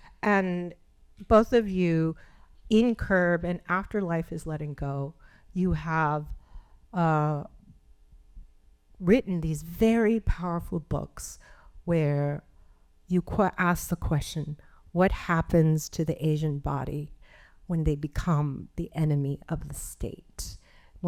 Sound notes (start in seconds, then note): none